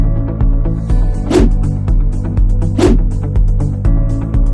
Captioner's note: graphics whooshing; upbeat music